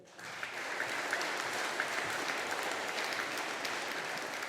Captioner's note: audience applauding